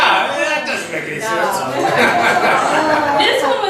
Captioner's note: voiceover